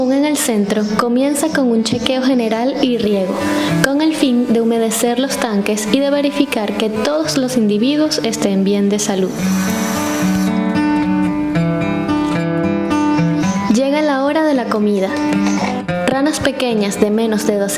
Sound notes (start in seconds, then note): 9.6 soft music; 13.4 frogs chirping